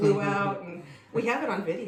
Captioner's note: laughter